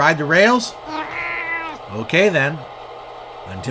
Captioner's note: meow!